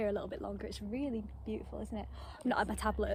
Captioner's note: gasps